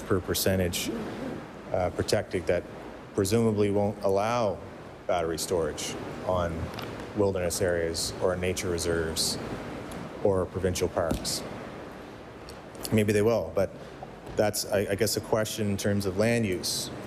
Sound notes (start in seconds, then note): none